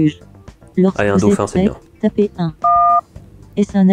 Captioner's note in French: son de touche de téléphone